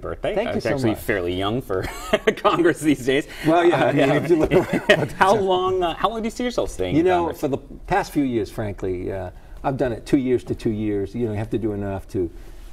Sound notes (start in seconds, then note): 3.5 laughter